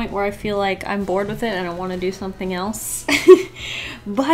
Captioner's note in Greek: Γέλια